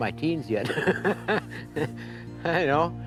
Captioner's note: chuckles